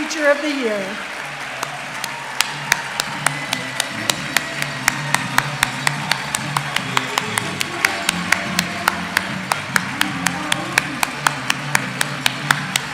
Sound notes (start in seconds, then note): 0.0 applause; 0.0 cheers